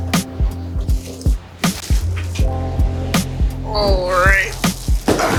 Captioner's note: mellow groove music; wrapping rustles